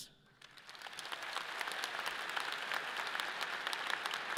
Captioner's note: audience applauds